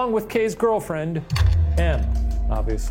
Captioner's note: slide projector clicks